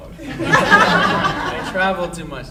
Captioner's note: audience laughing